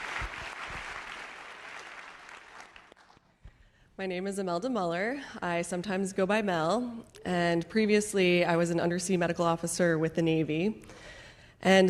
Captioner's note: applause